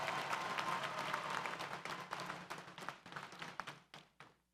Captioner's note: graduates cheer